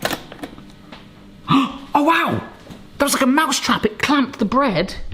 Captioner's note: gasps